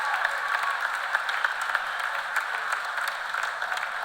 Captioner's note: cheers and applause